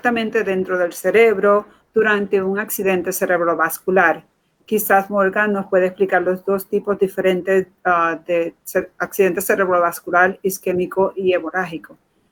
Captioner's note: speaking in Foreign Language